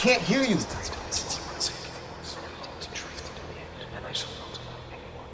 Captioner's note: voices whispering